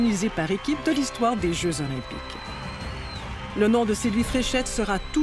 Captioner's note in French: acclamations